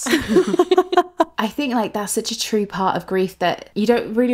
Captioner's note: laughing